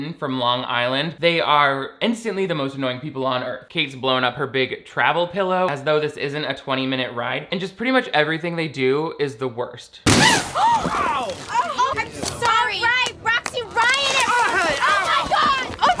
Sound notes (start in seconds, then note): 10.2 Kate and Roxy gasp; 10.2 passenger yelling; 12.4 clapping